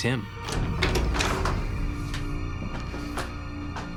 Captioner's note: door opens